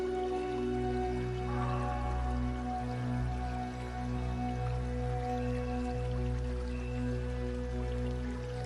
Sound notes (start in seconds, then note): 3.8 water splashing